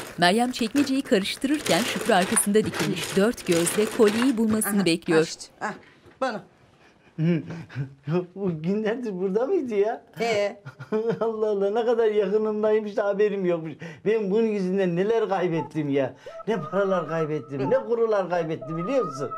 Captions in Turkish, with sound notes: (Çekmeceyi karıştırma sesleri) Aha, aha işte buldum. -Ya bu günlerdir burada mıydı ya? -Hee. Allah Allah ne kadar yakınımdaymış da haberim yokmuş. Ben bunun yüzünden neler kaybettim ya... ...ne paralar kaybettim, ne kurular kaybettim biliyor musun?